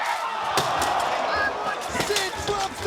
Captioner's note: crowd gasps